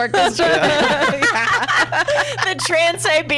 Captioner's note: laughs